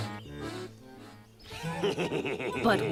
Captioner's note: wolf laughs